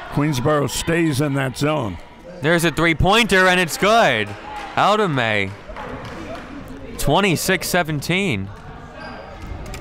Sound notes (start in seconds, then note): 4.0 crowd clapping